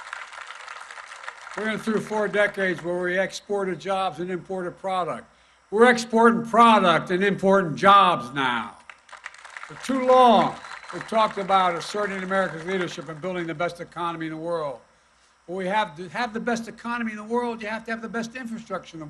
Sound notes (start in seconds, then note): 8.8 applause